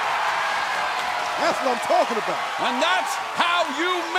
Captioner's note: crowd cheering